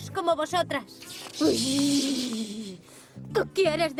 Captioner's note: grunt